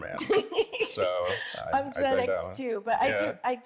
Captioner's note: laughs